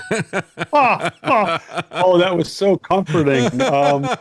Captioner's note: laughing